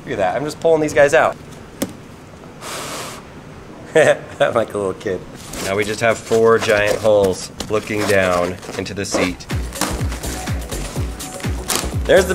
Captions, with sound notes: Look at that, I'm just pulling these guys out. (blowing) (laughs) I'm like a little kid. Now we just have four giant holes looking down into the seat. (material ripping)